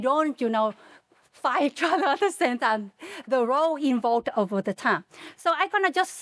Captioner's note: laughs